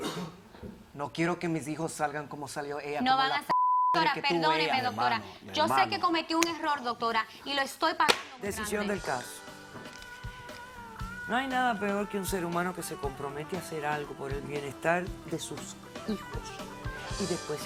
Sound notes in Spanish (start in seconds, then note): 3.5 Bip